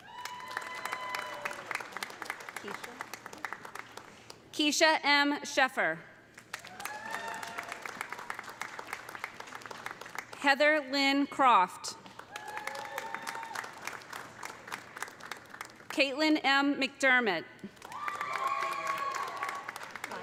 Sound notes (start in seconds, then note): 0.0 audience cheering; 0.0 audience applauding; 6.4 audience applauding; 6.6 audience cheering; 12.1 audience applauding; 12.3 audience cheering; 17.7 audience applauding; 17.8 audience cheering